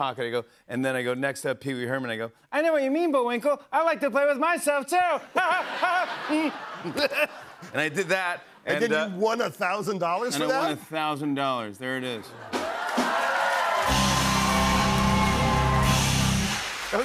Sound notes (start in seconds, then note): 5.4 Laughs as Herman; 7.6 normal voice; 12.3 cheers and applause